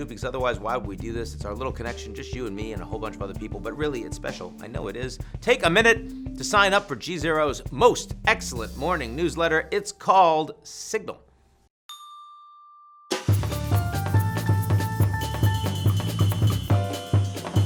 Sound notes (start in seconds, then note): 11.5 upbeat jazz music; 11.9 bell dings